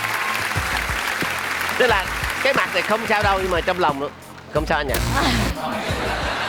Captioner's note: laughing